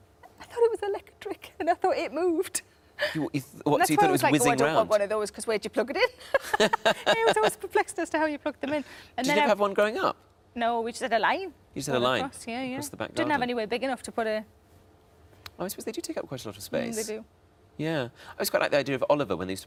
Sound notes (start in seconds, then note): 6.3 Sarah and Tom laughing